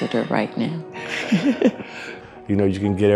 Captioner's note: laughs